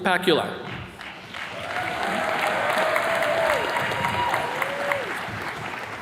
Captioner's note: attendees cheers and claps